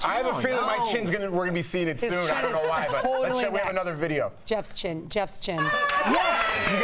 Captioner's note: laughter